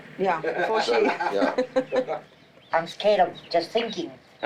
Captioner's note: laughs